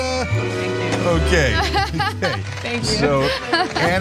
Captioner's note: laugh